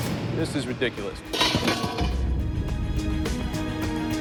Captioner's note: clatter